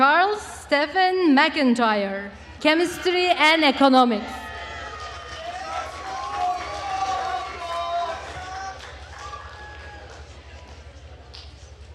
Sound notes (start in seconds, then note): 4.3 attendees cheering and applauding